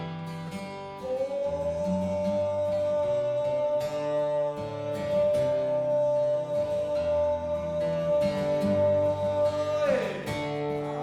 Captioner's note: humming